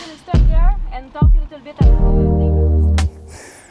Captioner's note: speaks faintly